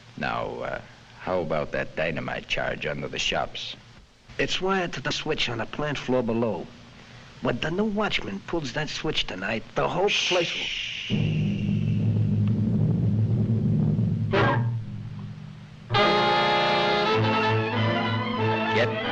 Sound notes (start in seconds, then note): 10.7 boss hushes; 11.1 suspenseful music; 16.2 dramatic music